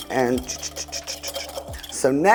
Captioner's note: imitates a mixer